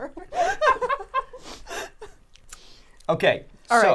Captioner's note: all laughing